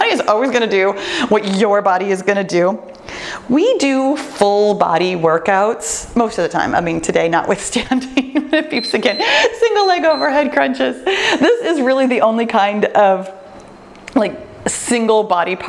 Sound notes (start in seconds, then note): 9.7 timer beeps